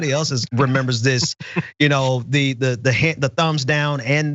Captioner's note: laugh